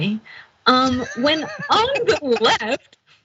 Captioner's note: laugh